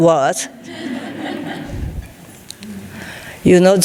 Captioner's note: audience laughing